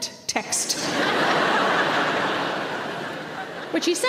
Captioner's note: audience laughs